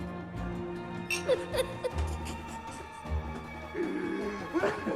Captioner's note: chuckling